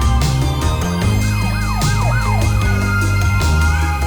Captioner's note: siren wails